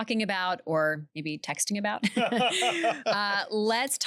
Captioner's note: laughter